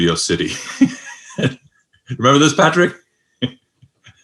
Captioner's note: laughs